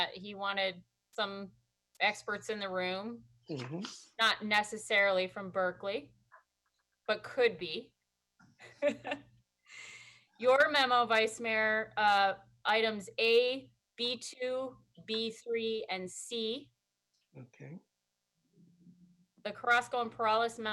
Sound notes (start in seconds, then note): 8.6 laughter